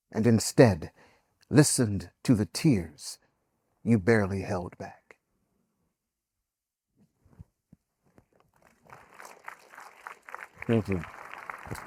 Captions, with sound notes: and instead listened to the tears you barely held back." (audience applauding) Thank you.